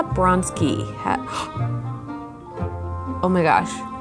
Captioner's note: gasps